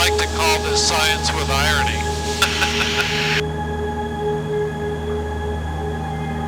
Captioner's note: laughter